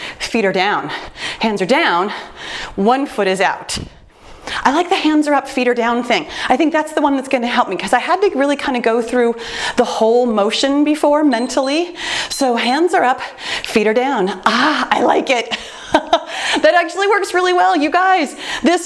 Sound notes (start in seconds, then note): 11.3 timer beeps; 15.9 laughs